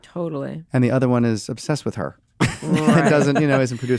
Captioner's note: laughter